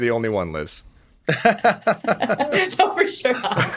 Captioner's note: Dean laughs